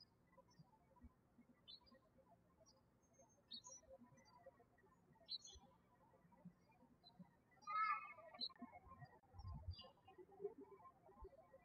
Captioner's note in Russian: птички щебечут